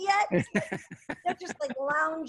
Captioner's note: laughs